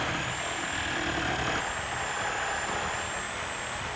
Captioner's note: saw humming